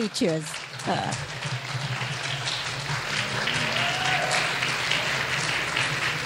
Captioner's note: clapping; cheering